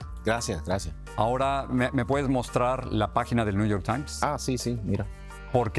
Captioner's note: speaks in foreign language